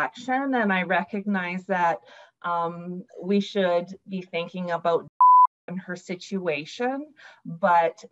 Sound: beep

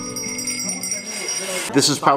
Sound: bells ring

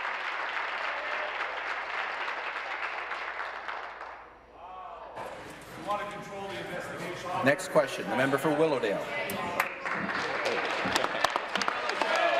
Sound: some Applause

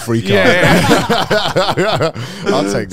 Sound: all laughing

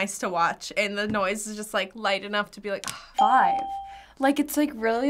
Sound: whispers

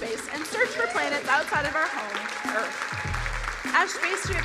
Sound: crowd applauding

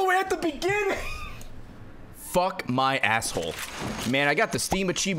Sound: laughs

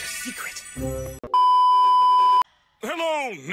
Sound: beep

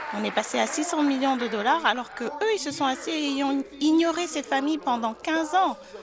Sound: applause

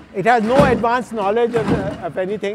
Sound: feet clatter

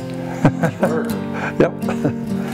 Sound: laughs

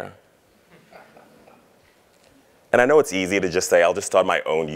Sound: laugh

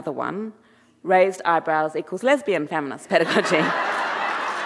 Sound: audience laughing and applauding; laughs

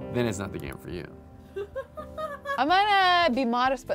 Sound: girl laughs

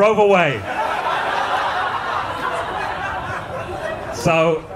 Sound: audience laughing

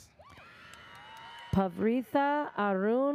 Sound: audience cheers

